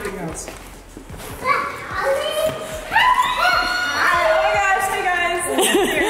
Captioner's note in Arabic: صراخ غير واضح